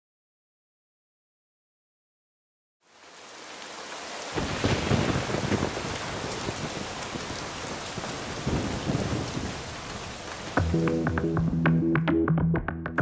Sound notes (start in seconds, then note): 4.8 rain pouring; 10.6 upbeat Music